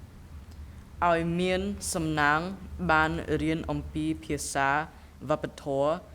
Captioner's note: speaking in a foreign language